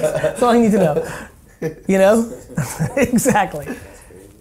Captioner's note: laughing